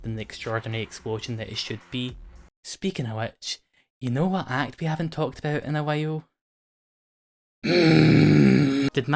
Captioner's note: scream